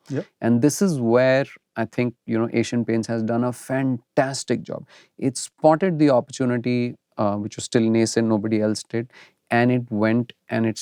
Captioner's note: snorts